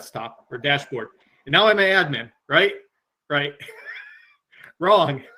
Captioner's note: laughs